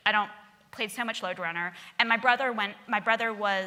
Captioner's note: none